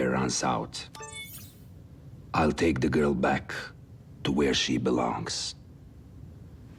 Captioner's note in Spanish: pitido